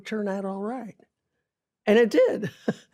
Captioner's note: chuckles